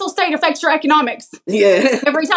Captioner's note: laugh